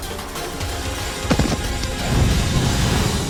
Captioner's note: falls